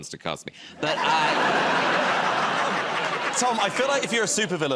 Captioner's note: laughter